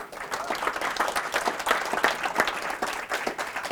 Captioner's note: crowd applauding